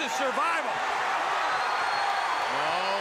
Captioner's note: crowd cheering